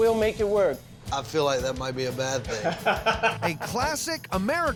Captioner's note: laughs